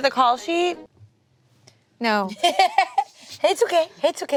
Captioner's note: laughing